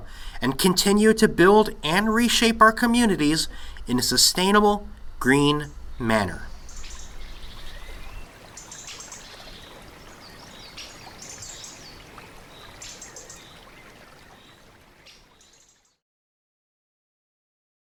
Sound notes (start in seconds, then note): 6.9 birdsong and bubbling flow of water rising and fading